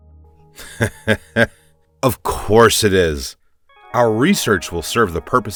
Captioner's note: laughs